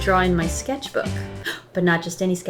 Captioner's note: gasps